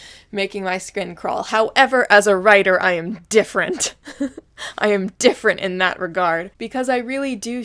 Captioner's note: giggles